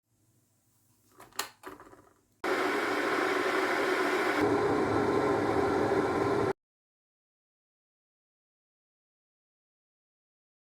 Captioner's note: water boiling